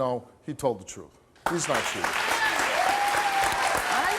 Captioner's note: audience clapping